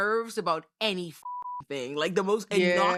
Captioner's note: beep